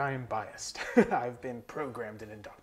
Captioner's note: laughing